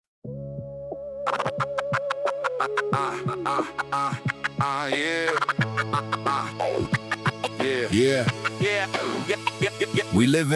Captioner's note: ah, ah, ah, ah